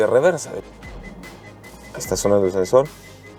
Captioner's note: sensor beeping